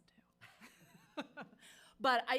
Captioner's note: members laughing